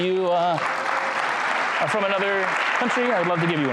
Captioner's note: crowd applauds